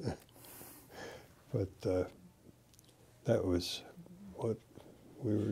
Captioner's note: laughter